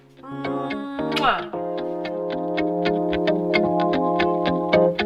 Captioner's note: kiss sound